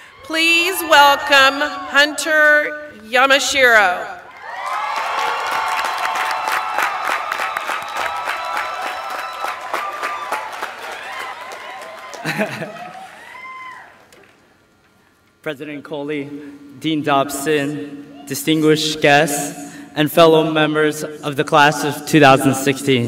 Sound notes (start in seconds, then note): 9.6 applause; 9.6 laughter